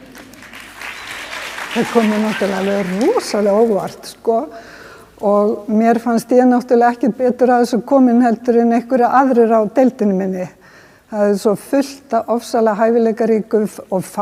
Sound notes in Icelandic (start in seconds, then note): 0.1 fagnaðarlæti